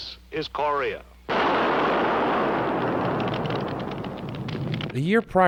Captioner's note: bomp explosion